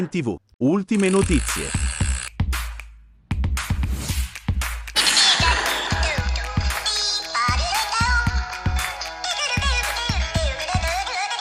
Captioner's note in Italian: Applauso